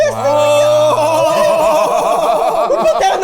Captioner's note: people exclaiming